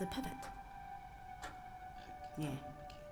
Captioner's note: clock ticks